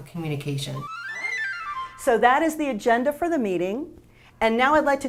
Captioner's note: flashback sound fx